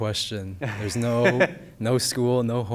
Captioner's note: laughs